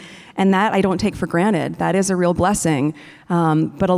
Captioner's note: none